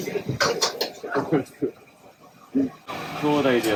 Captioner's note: laugh